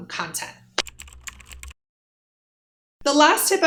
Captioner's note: typing